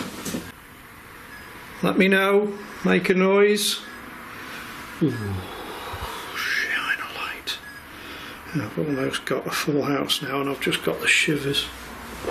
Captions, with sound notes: - Let me know, make a noise. (beeping) Oh, shine a light. I've almost got a full house now and I've just got the shivers.